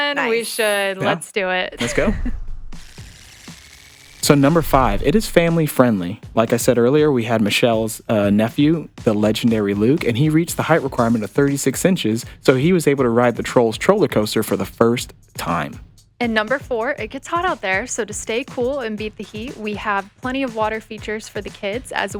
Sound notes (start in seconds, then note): 1.7 chuckling; 2.4 screen trilling; 3.8 screen whooshing